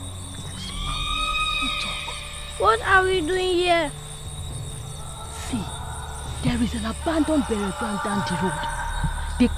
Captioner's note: screaming